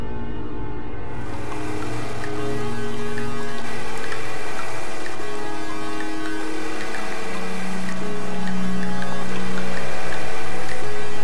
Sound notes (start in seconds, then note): 1.1 spooky electronic sound